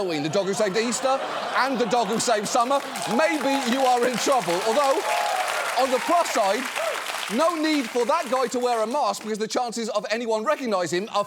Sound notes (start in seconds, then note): 5.0 audience cheering, applauding